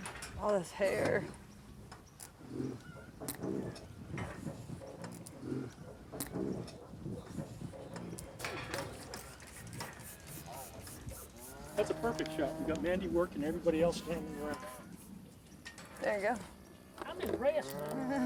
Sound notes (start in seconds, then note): 2.6 cow grunting; 10.4 bottle spraying; 11.2 cow lowing